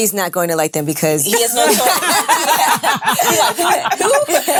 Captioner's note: ladies laughing